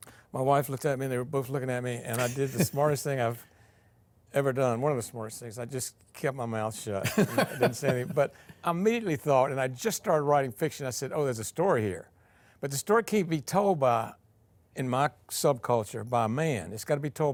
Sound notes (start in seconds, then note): 7.0 laughing